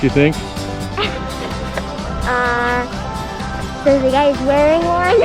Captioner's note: laughs